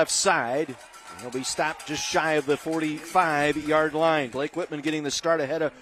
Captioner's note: applause